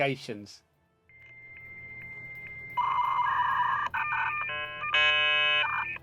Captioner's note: beeping